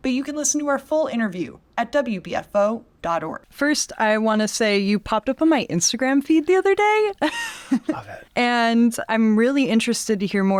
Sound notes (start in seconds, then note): 7.1 laughs